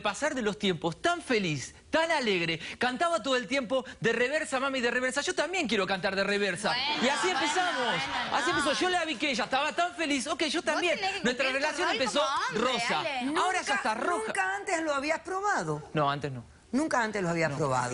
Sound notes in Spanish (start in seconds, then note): 7.0 risas